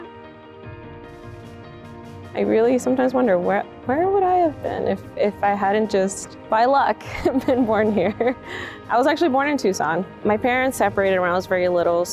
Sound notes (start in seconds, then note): 0.1 inspirational music; 7.0 chuckles